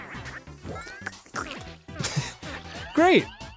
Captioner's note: more gory sounds from nasty mouth